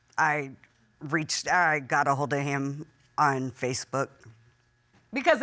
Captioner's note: none